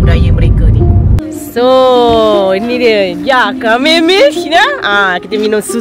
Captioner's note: speaking German